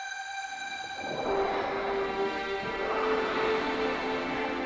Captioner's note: majestic music; water splashing